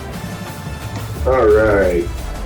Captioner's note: crowd Noises